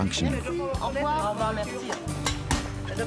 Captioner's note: both speak french